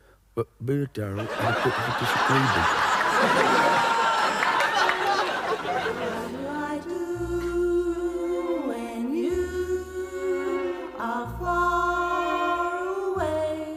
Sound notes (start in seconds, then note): 2.7 audience laughing